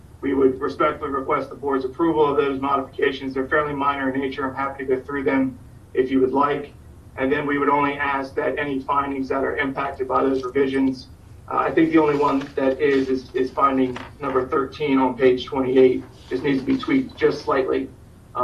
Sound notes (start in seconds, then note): none